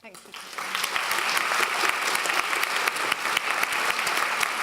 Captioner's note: clapping